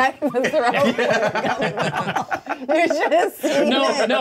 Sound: co-hosts laughing

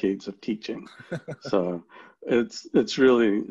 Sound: laughs

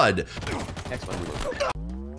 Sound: gunshots sputtering

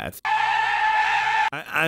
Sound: gun screaming

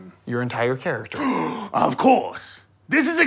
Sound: gasps

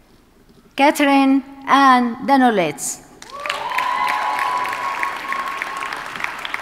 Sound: audience cheers and applauds

